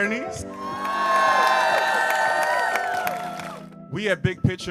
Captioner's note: people cheering